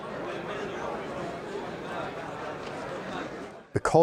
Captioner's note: audience chattering